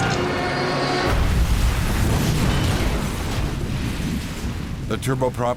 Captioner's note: airplane engine roaring; engine exploding